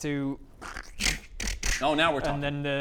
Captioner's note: room morphing noises